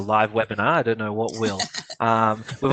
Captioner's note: laughter